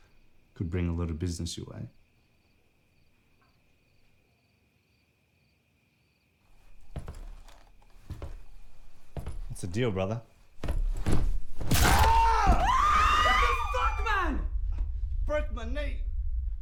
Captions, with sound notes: have. Could bring a lot of business your way. [approaching footsteps] What's the deal brother?! [crack] [screams] What the fuck man! You broke my knee!